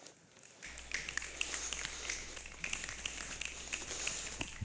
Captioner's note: snapping